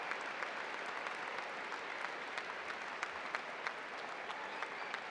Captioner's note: applause